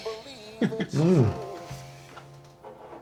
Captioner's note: Jesse and Florio giggle